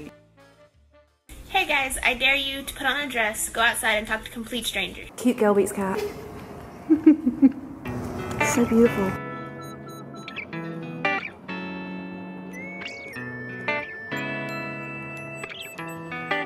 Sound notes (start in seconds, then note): 5.4 voiceover; 6.6 laughs